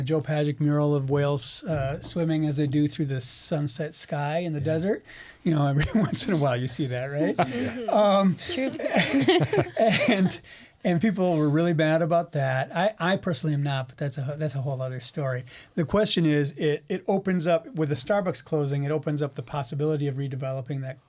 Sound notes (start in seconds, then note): 9.7 laughing